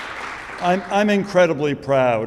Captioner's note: audience applauding